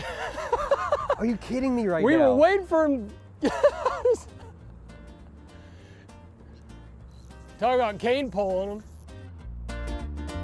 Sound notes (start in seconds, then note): 0.0 laughs; 3.4 laughs